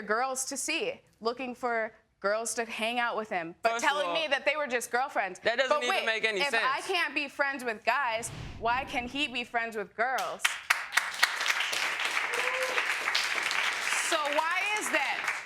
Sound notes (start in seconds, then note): 9.3 audience member whooping; 10.2 audience clapping